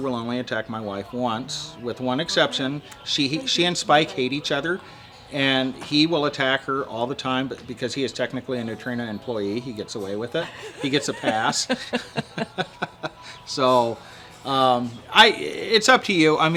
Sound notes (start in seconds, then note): 10.4 laughing